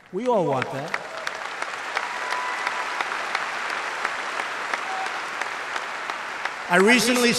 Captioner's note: applause